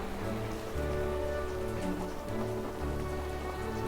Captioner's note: the sound of rain outside the window